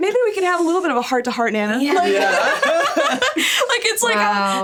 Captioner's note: laughs